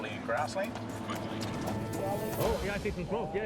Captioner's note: chattering